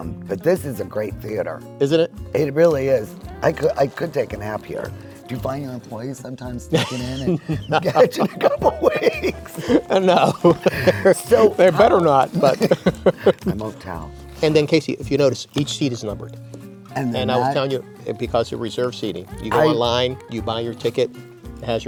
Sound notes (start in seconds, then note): 9.3 laugh; 10.6 laughs